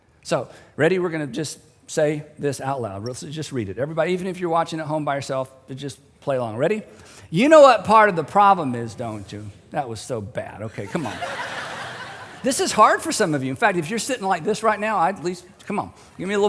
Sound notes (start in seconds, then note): 10.8 laughter